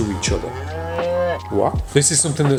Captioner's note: cow softly moos